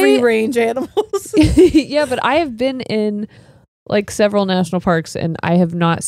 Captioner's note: laughs